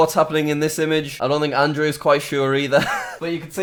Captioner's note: laughs